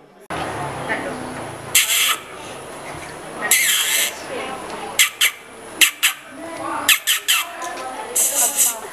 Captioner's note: catcalling